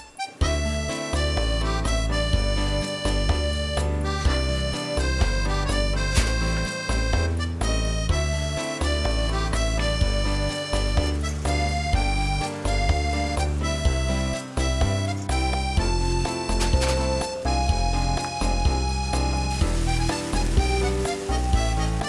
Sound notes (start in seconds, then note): 9.2 a drizzle